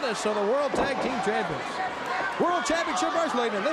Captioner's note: crowd cheering